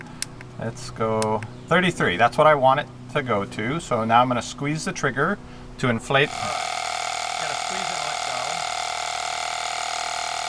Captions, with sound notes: Let's go 33, that's what I want it to go to so now I'm going to squeeze the trigger, to inflate the (buzzing) You've got to squeeze and let go.